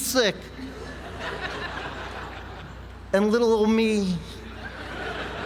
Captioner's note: laugh; laugh